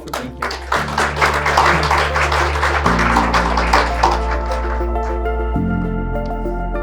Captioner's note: audience applauds; gentle music